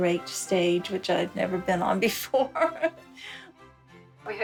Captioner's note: chuckles